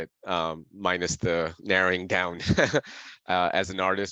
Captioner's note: laughs